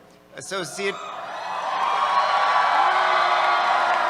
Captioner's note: cheers